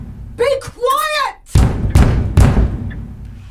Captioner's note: knocking, banging